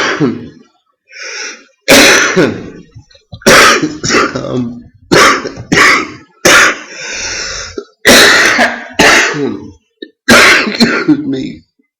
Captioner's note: "Coughing" and/or "Dying" fit